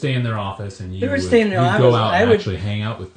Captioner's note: voiceover